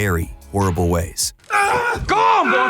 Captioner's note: groaning